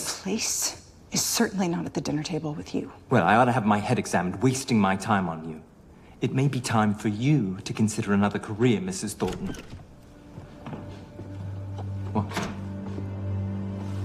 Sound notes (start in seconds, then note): 9.0 door opens